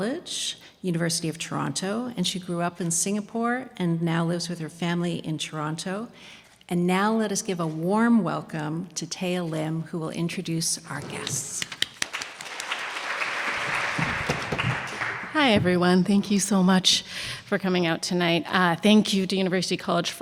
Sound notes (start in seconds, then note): 11.7 audience applauding